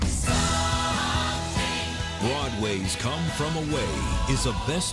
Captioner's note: voiceover